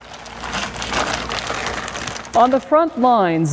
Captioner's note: Tyvek suit rustling